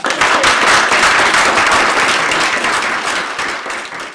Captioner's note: applause